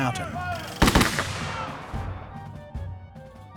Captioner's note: gunshots